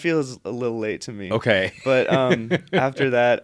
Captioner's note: laughs